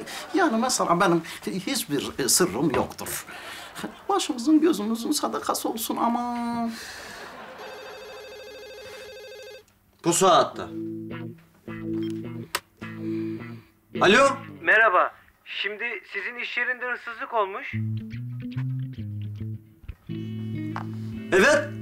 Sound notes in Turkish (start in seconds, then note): 7.3 Telefon zili sesi